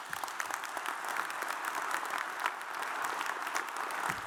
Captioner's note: audience applauds